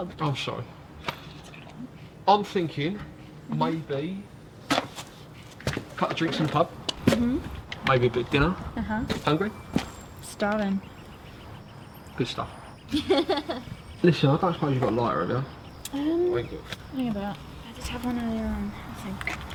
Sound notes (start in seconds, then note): 12.8 laughs